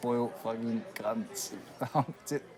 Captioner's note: chuckles